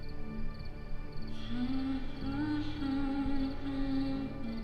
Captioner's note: intriguing music; humming continues